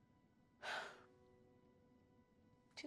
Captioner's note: sighs